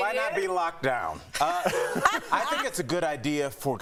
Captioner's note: laughter